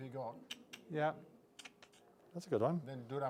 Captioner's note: clicking sound of the mouth